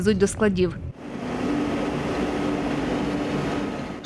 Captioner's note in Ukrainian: Шум двигуна